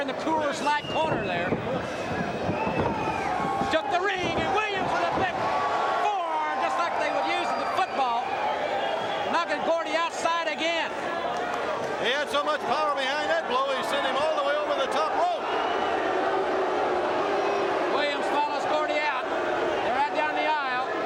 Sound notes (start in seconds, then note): 9.8 crowd chatter; 17.0 crowd chatter